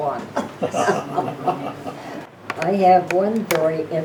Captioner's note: laughing